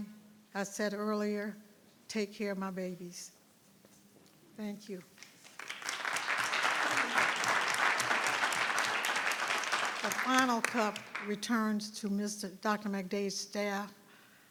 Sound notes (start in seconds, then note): 5.2 audience clapping